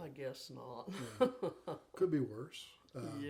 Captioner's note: chuckles